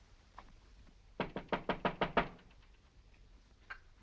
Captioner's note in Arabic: يطرق الباب